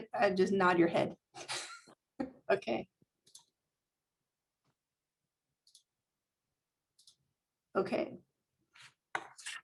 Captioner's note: laughter